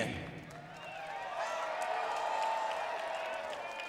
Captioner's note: crowd cheers